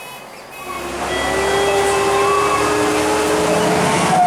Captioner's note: Strider Door Open warning buzzer; Volvo Olympian engine running; BUS STOPPING chime